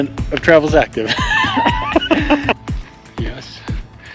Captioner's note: laughing